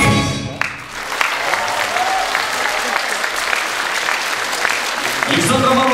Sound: applause

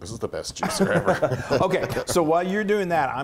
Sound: laugh

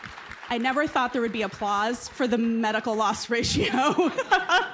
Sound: applause; laughs

